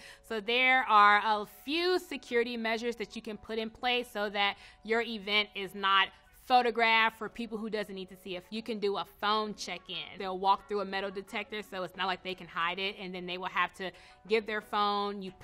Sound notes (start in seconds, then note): none